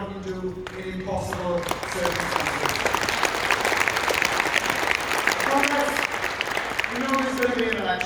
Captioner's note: applause